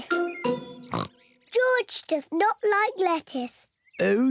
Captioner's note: oinks